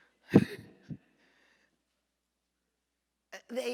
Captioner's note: laughing